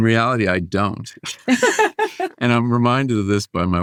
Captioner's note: laughing